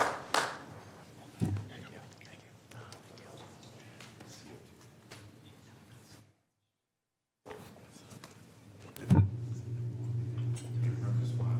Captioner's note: applause